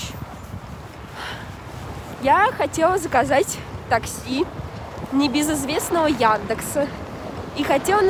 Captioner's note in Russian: вздох